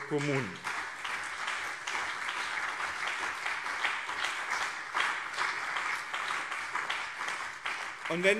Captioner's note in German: Beifall BÜNDNIS 90/DIE GRÜNEN und CDU